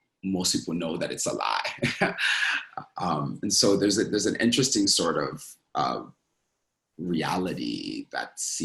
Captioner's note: laughs